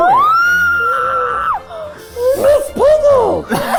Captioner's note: squeals